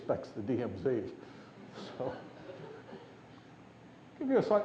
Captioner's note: laughter